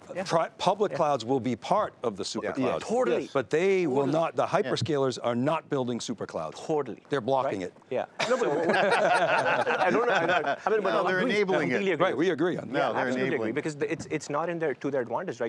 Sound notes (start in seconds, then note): 8.2 laughing